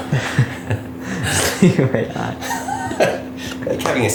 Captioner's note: laughs